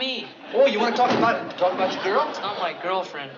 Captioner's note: thunk